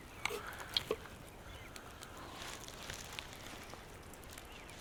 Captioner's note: birds chirping